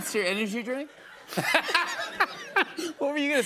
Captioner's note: laughter